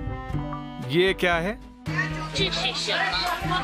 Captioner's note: tablet translating